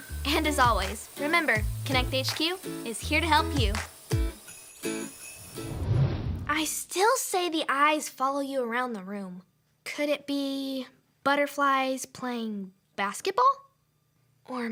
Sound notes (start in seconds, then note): 4.1 upbeat music; 5.5 whooshing; 5.8 upbeat music ends